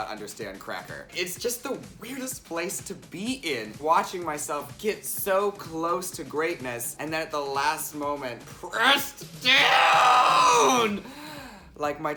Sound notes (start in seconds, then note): 9.4 screeching; 10.2 inhale